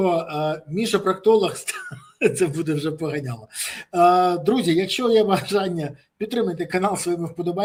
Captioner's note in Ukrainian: сміх